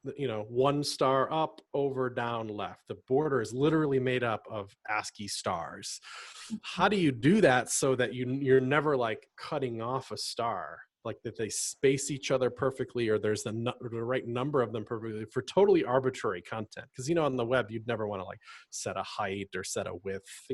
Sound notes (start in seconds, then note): none